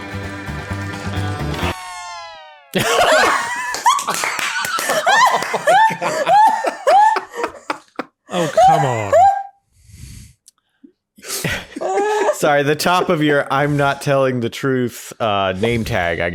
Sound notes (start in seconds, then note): 2.8 laughing; 11.3 laughing